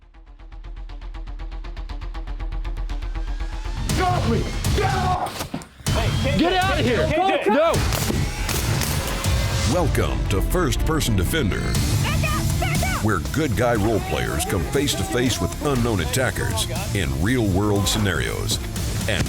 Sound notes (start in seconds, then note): 0.1 intense electronic beat; 7.8 gunfire